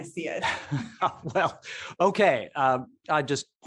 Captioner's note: laughing